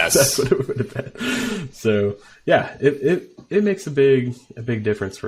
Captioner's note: laughing